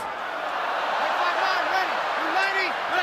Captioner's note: cheering